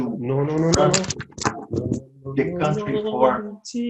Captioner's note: murmurs